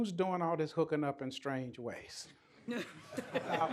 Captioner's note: laughter